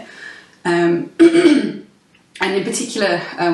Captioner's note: clears throat